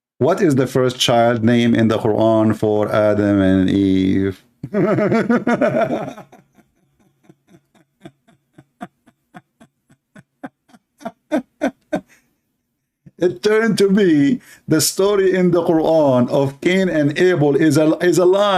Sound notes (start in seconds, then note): 4.6 laughter